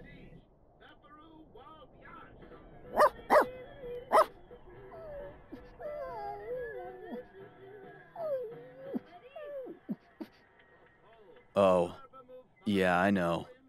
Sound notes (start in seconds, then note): 2.9 dog barks; 4.8 dog whimpers sadly